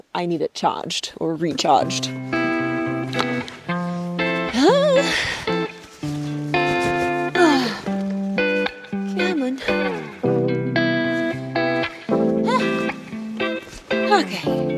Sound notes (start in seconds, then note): 2.8 upbeat music; 4.5 person grunting